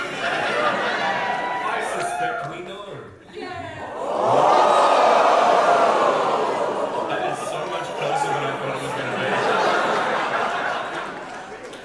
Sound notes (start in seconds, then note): 0.1 audience wooo; 3.8 audience and panel woah reaction